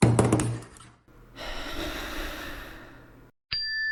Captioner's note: sigh